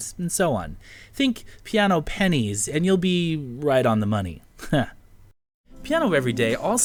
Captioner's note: heh